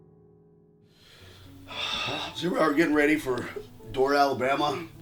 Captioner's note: soft piano playing; breathing deeply